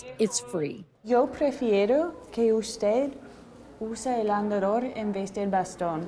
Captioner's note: speaking in foreign language